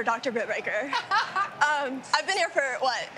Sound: laughs

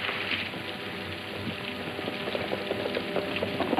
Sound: hooves thudding

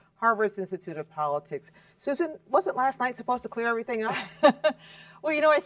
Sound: laughter

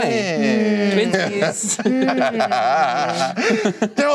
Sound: laughing

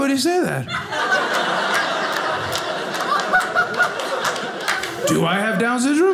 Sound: audience laughing

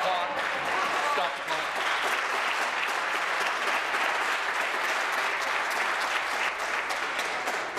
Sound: applause

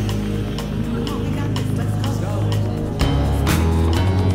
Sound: men chatting

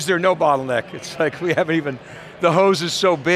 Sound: laughing

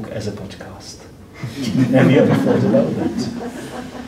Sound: laughter

